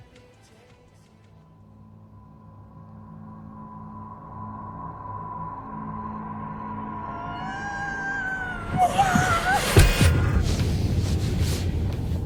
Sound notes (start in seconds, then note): 2.8 ominous music; 7.8 distant wailing; 8.8 violent thud